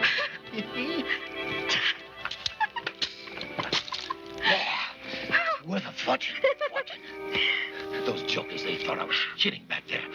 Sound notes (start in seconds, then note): 0.0 laughing; 1.8 giggling; 3.6 splat; 6.3 giggling